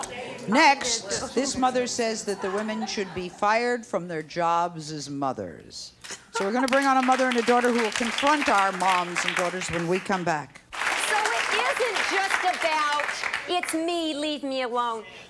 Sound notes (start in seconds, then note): 10.7 clapping